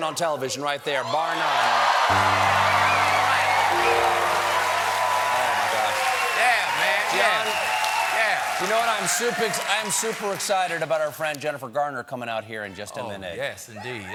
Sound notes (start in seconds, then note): 4.0 cheers and applause